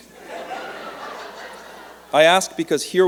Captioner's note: laughter